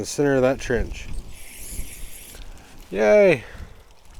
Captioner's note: paint spraying sound